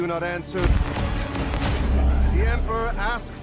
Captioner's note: punches